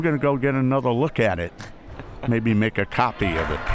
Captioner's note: laughs